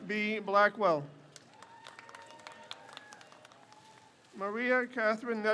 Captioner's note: crowd cheers